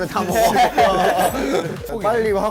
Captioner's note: haha